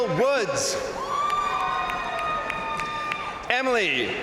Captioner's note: crowd cheering; crowd applauding